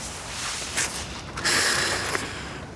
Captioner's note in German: Seufzen